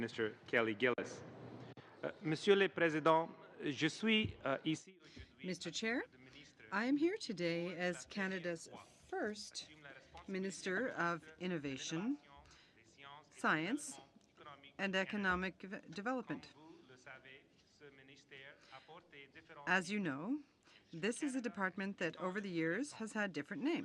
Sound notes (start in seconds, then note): 8.2 speaking French